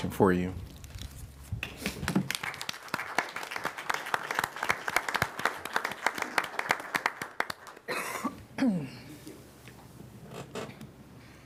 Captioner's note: applause